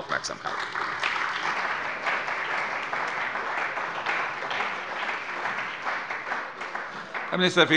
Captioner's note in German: Beifall bei der CDU und dem BÜNDNIS 90/DIE GRÜNEN